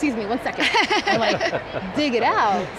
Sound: laughing

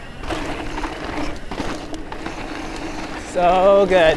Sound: bike rattles

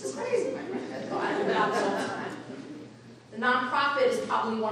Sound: audience laughing

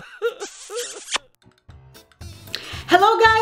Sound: smooching kiss

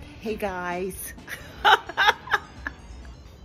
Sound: laughs

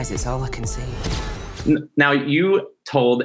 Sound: camera flashes

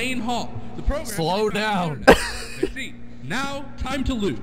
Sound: laughter

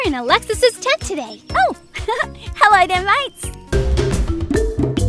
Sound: laughs

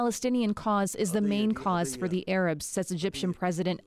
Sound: speaking alternate language

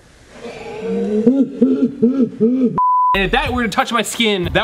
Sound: slow motion laughing

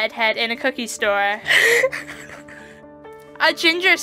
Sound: laughs

